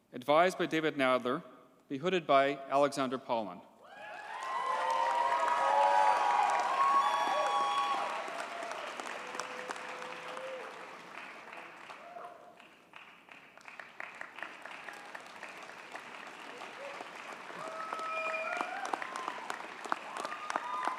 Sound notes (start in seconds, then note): 4.2 audience cheers and applauds